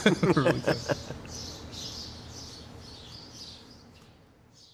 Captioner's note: laughing